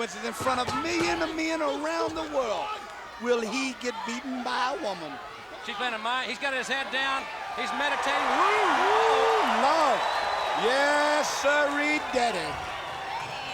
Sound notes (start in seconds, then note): 9.1 crowd cheering